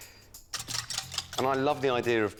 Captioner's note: mixture squelches